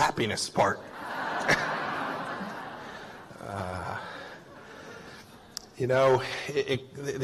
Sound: laughter

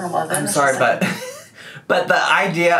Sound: laughs

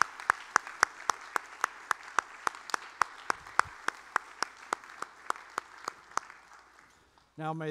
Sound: applause

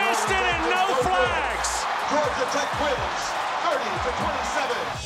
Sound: crowd applause

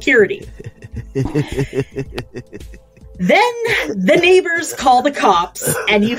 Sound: laughing and coughing

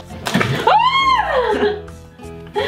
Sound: screams; laughs

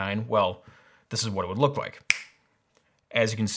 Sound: snap

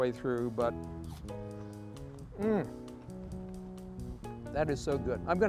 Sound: moans

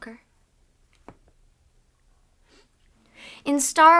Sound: ambient room silence

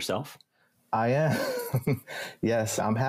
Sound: laughs

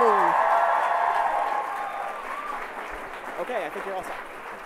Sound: audience applauds

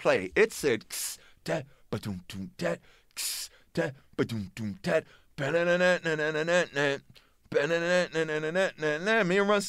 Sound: beat-boxing intro and riff

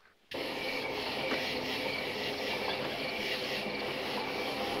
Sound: crickets chirping

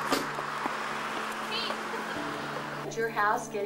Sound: laughs

